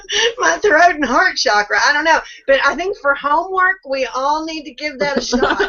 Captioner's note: laughing; laughing